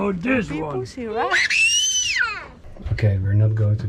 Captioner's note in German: schreit